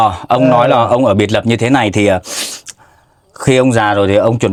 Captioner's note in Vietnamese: khịt mũi